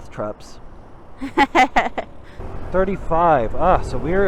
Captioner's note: laughs